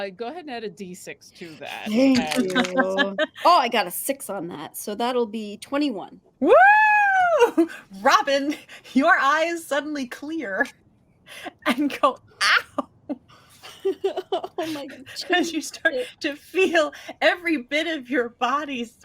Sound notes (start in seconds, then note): 13.6 laughing